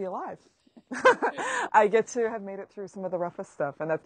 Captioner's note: laughs